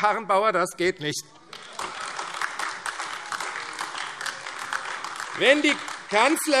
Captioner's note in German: Heiterkeit und Beifall AfD